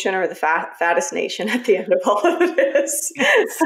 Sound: laughs

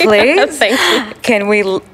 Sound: laughs

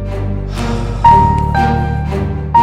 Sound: Rohit exhales

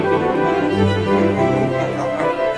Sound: giggling

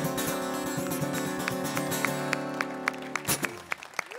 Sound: applause

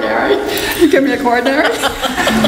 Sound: laughs

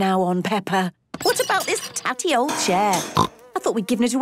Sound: snorting

